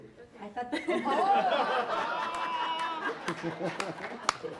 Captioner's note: audience laughs